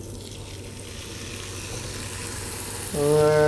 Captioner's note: the irresistible sound is heard as soon as the steak hits the pan